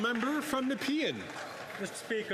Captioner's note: some Applause